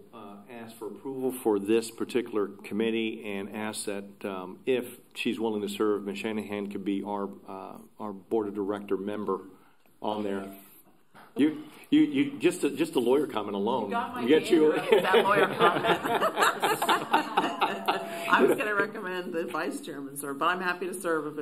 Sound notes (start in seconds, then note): 14.5 laughter